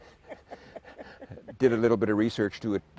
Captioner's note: laughs